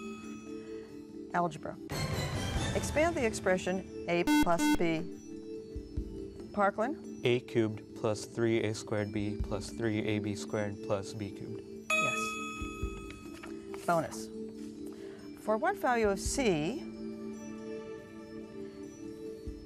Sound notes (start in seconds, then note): 4.2 buzzer